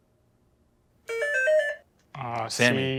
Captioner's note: beeping